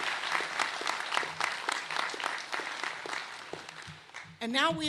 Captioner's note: applause